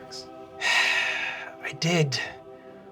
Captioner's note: sighing